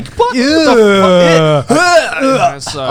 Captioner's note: fake vomiting